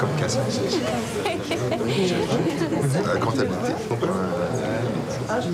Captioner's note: Rires et conversations